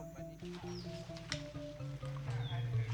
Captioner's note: footsteps on grass